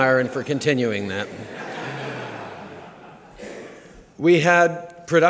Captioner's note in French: Rires